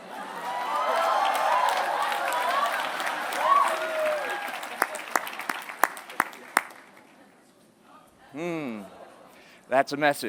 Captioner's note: applause